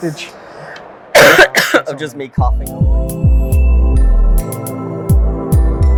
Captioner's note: coughs